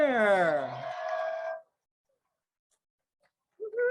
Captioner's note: crowd cheers